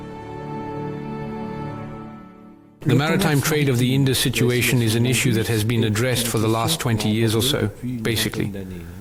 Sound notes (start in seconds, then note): 2.8 French spoken audio